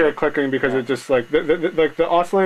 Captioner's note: stammering